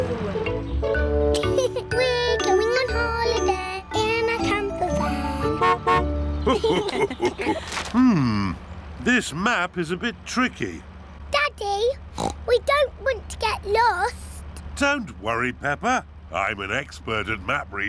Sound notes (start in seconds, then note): 1.3 laughs; 4.8 horn honks; 6.4 laughter; 12.1 oinks